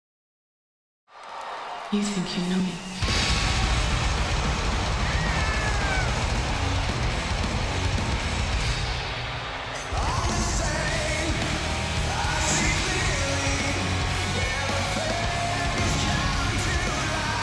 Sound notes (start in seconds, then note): 1.4 audience applauds and cheers; 3.0 lively music